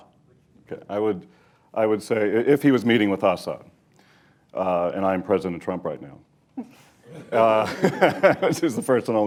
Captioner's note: laughter